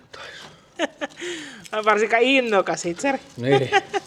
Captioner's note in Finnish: naurua